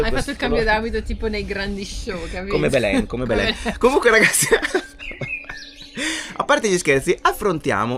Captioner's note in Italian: risate